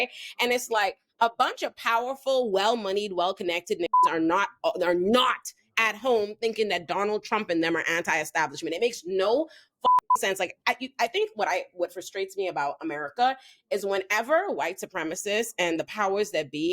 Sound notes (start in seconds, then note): 9.8 beep